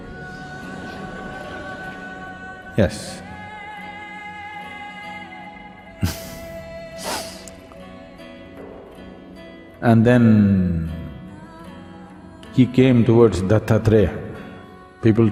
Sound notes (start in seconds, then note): 6.0 laughs